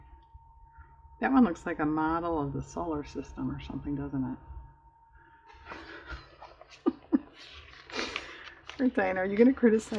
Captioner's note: laughs